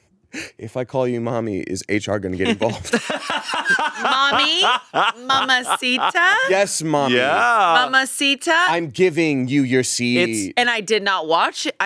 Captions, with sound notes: - If I call you Mommy, is HR gonna get involved? (both laughing) - Mommy. Mama Sita. - Yes, Mommy. - Yeah. - Mama Sita. - I'm giving you your seat. - It's, - And I did not watch,